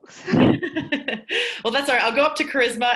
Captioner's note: laughs